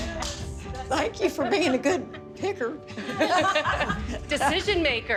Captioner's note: group clapping